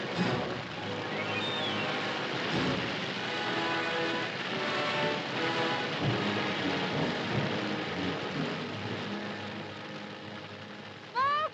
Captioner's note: dramatic music; fire crackling; fire roaring; dramatic music